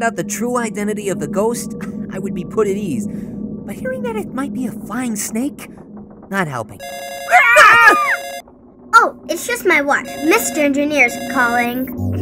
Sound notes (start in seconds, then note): 6.8 watch ringing; 7.2 screaming